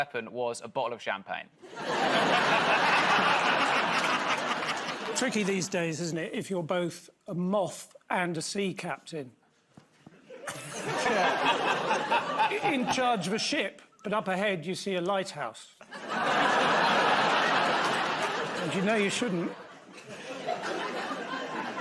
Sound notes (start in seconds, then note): 1.6 laughter; 10.5 scattered laughter; 15.8 laughter